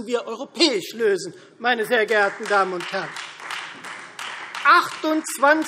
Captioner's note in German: Beifall Freie Demokraten